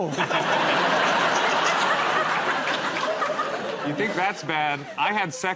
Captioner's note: laughter